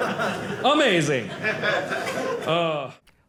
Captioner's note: audience laughing